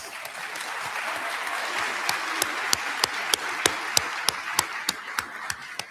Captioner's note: applause